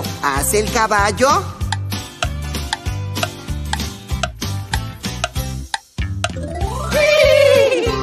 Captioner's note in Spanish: Sonido de reloj